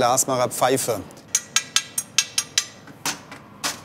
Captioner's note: metal knocking